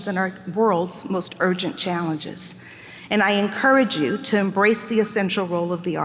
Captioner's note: none